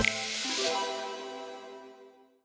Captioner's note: futuristic chimes ringing